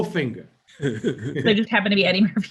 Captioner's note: laughing